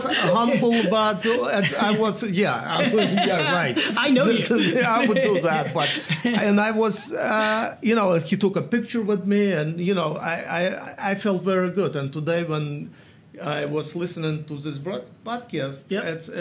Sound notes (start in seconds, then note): 4.2 laughing